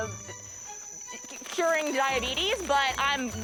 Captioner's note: laughs